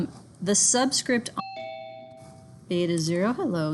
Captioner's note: notification bell rings